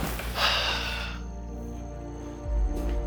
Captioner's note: sigh